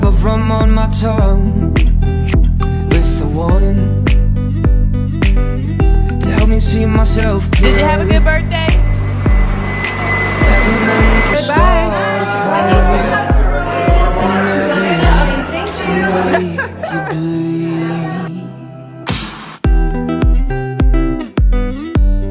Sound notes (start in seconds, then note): 14.4 chattering; 16.0 laughing; 19.4 upbeat music